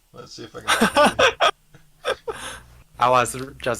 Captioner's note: laughing